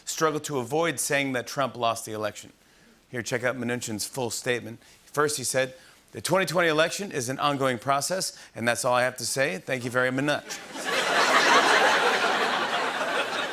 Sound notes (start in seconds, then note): 10.4 laughter